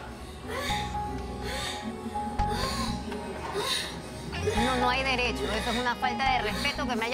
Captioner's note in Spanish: Gemidos